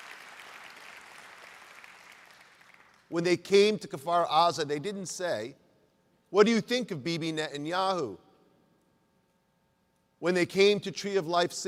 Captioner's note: applause